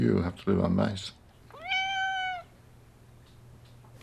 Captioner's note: meows